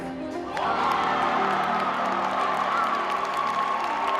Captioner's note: crowd cheering